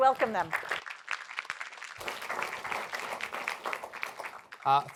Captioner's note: applause